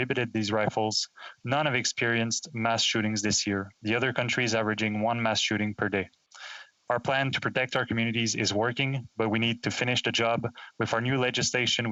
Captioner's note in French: voix de l'interprète